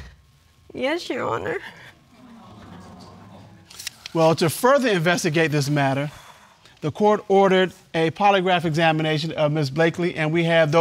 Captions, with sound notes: (VOICE SHAKING) Yes, Your Honor. (AUDIENCE EXCLAIMING) Well, to further investigate this matter, the Court ordered a polygraph examination of Ms. Blakely,